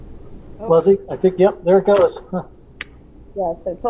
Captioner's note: laughs